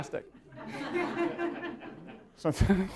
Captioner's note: laughter